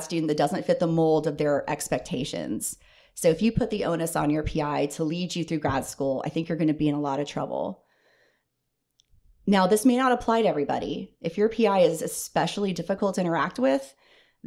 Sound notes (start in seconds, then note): none